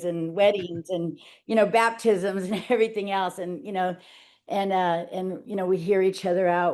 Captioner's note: laughing